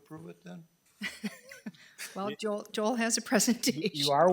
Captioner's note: chuckles